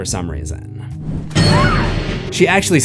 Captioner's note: screams